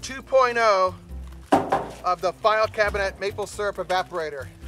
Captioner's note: metal knocking